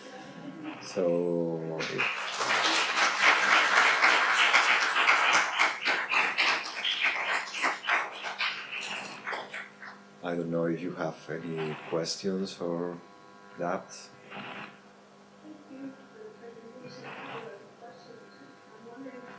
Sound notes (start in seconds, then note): 1.6 audience applauding